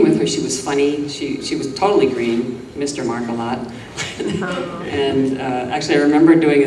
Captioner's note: laughs